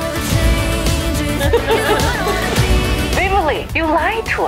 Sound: laughing

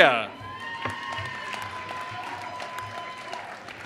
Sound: applause

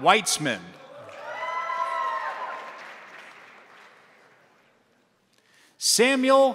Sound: crowd cheering; crowd applauding

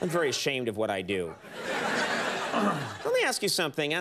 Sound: audience laughs

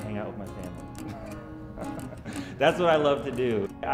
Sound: laughing

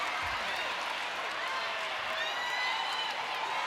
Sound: applause

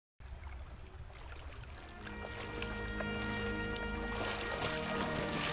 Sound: crickets chirping; water</b> <b>splashing

